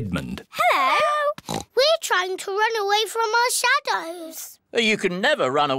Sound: oinks

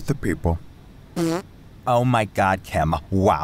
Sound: someone farts

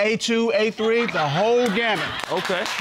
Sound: audience laughs

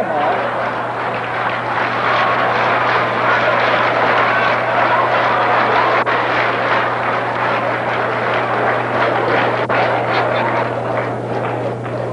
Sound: applause

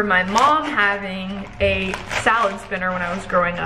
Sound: leaves crunch

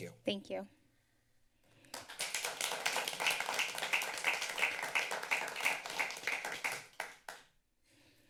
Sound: applause

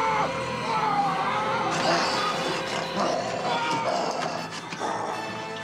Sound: breathing heavily

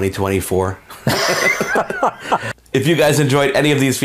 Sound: both laughing

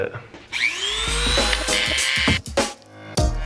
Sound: buzzing; up-tempo music

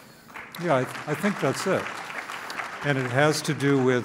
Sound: clapping

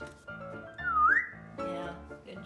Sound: whistling

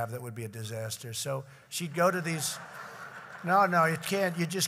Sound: laughter

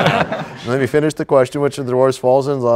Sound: laughter

